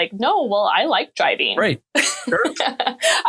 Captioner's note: laughing